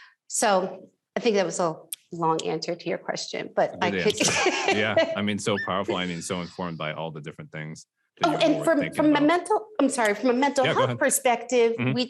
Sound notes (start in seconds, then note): 3.8 laughs